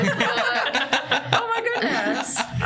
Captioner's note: laughter